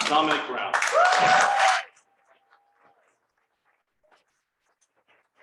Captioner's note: crowd applauses